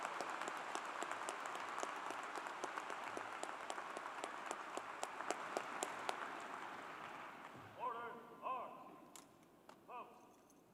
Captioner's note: cheers and Applause